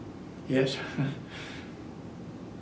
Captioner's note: laughs